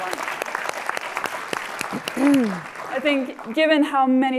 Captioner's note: applause